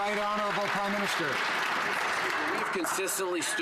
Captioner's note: some Applause